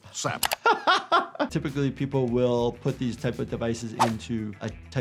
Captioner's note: laughs